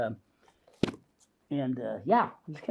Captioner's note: book closes; book thumps